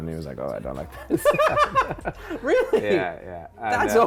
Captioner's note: laughs